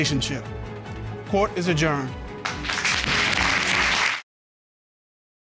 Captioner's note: audience applauding